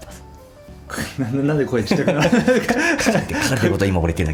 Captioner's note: laughs